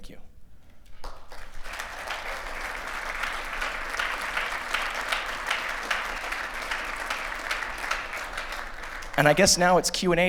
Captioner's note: applause